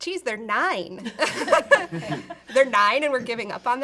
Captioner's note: all laughing